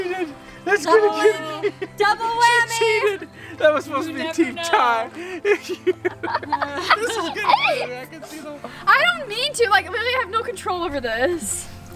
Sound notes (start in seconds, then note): 5.5 laughing